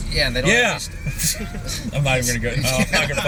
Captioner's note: laughter